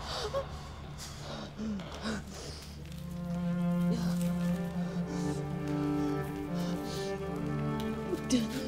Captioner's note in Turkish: Aslıhan nefes sesi